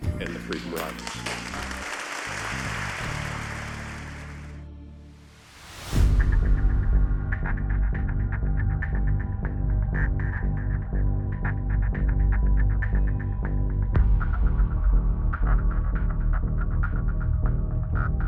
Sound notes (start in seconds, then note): 1.6 audience applauding; 6.0 intense music